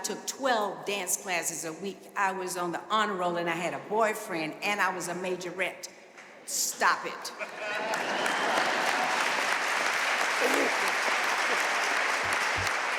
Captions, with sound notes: I took 12 dance classes a week. I was on the honor roll and I had a boyfriend and I was a major wreck. Stop it. (audience laughing) (audience applauding)